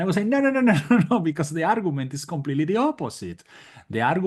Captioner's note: laugh